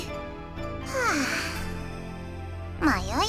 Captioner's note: sigh